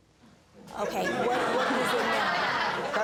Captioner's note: audience laughing